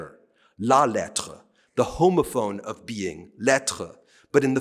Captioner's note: speaking french